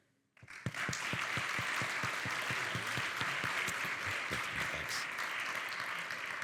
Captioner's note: audience applauding